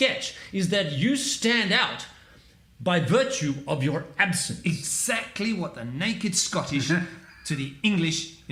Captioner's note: laugh